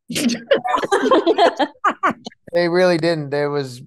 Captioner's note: panel laughs